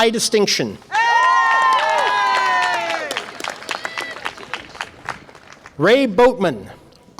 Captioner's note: audience applause and cheer